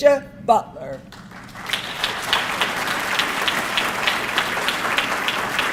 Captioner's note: audience clapping